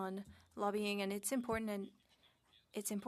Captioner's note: speaking French